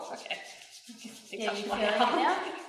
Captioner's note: laughs